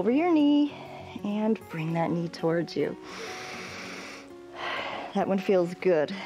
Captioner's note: inhales